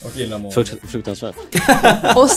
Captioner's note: laugh